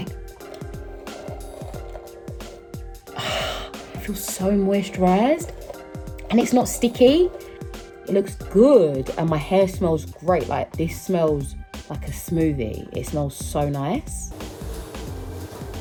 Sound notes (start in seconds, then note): 0.1 brushing; 2.9 sighs